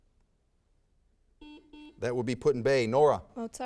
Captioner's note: buzzer sounds